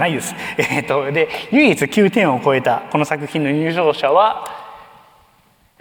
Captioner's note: chuckles